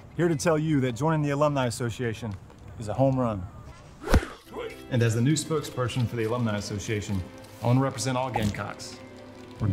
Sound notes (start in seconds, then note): 4.0 bat thuds against ball